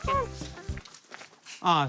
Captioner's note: grunting